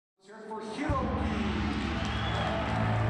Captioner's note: announcer speaking Japanese, audience cheers